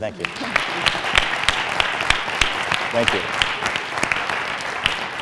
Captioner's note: applause